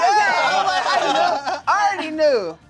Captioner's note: cast exclaims